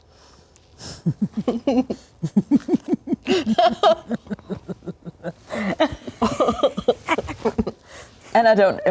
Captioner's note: giggles